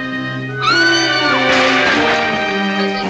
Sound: Alice screams and drops the tray

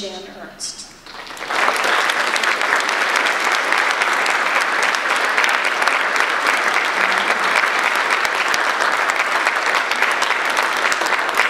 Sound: audience applause

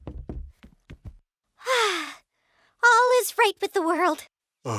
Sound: sigh

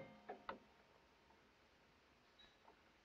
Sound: none

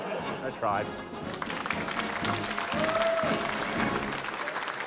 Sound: applause

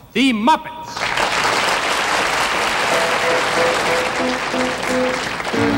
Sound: audience applauding

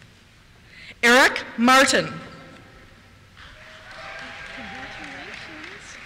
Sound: cheers

